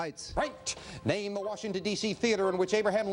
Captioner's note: beeping